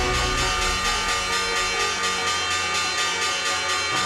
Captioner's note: bells chiming